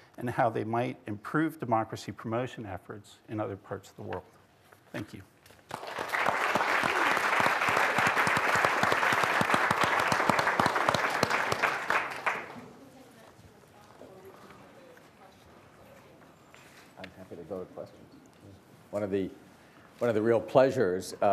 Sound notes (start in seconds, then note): 5.6 attendees applauding